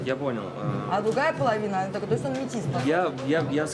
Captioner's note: translator speaks in foreign language